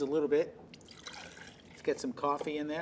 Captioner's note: liquid splashing